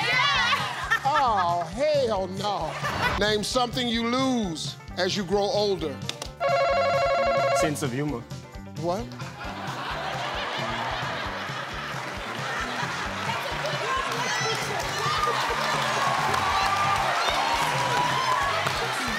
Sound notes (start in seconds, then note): 6.4 buzzer ringing; 9.2 audience laughing; 15.6 audience applauding